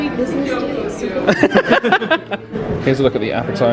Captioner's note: all laughing